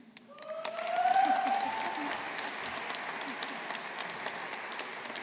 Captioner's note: audience applauding